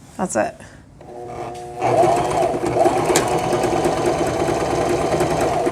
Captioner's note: sewing machine whirring